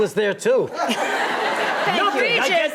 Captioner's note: audience laughs